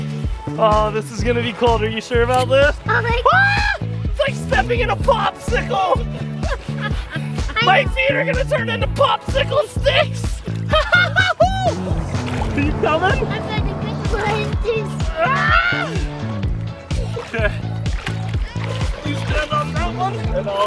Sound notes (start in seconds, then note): 6.4 laughing; 10.7 laughing; 14.1 wind blowing